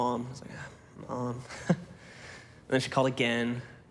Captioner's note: chuckles